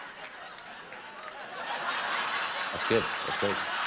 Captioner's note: laughter